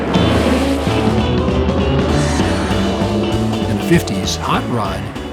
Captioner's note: tires squeal